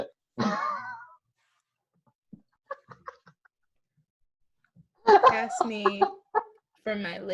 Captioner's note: laughter